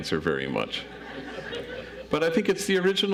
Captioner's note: audience laughs